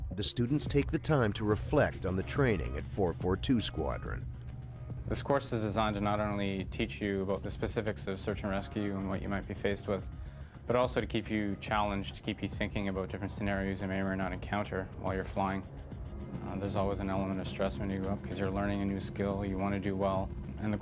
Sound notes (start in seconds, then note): 8.5 voiceover